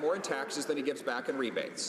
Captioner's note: some Applause